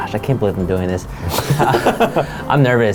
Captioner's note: laughs